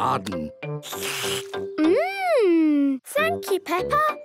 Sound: slurps

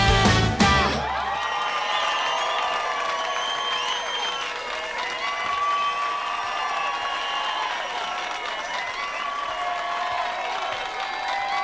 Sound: applause

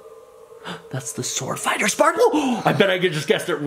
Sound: gasps

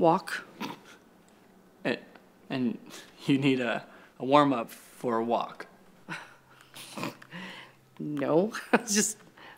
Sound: Ty chuckles; nervous laugh

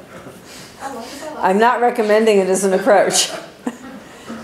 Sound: laughter

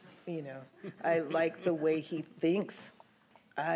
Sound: laughs

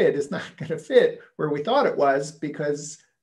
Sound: chuckle

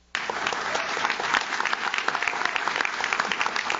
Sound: audience claps

